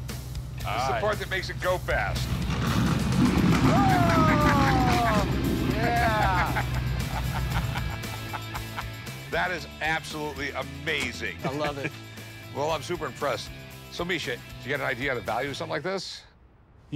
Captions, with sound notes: This is the part that makes it go fast. [engine roaring] Whoa. Yeah. [laughter] That is absolutely amazing. I love it. Well, I'm super impressed. So, Misha, you got an idea of the value of something like this? - You know what, Rick?